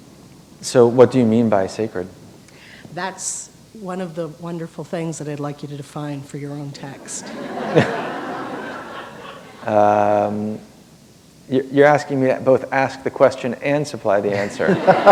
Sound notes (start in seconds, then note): 10.3 laughter